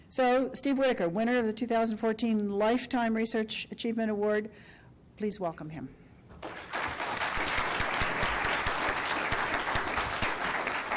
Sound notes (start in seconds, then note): 6.4 applause